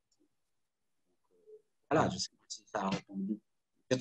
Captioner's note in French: coupure audio